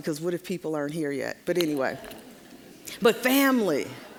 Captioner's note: audience chuckling